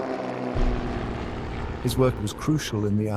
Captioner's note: propellers droning overhead; bomb splashes down